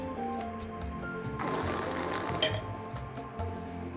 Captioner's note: slurps